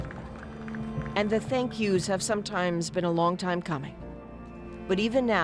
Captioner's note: applause